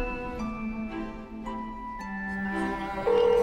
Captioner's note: phone ringing